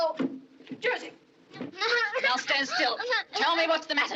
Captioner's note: crying